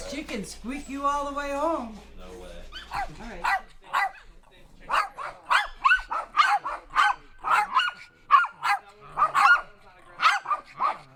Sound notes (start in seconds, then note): 4.8 dogs barking